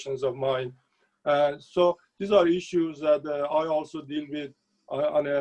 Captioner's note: speaking Farsi